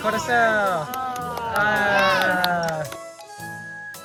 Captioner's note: applause